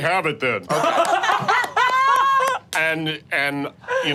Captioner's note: group laughing